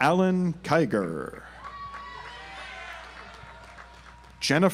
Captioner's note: audience applauds